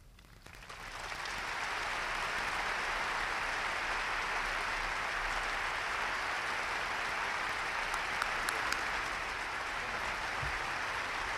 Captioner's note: applause